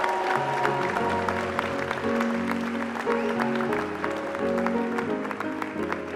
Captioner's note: applause